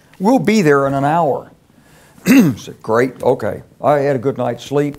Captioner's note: cough